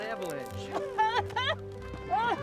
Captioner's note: coughs